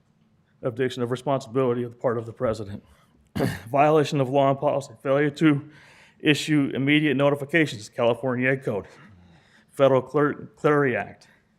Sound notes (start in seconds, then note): 3.3 clears throat